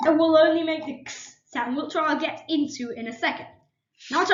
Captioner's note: makes The KS Sound